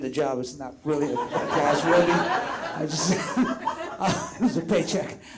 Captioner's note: audience laughs